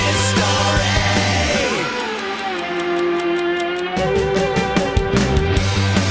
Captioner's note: clock ticking; rock music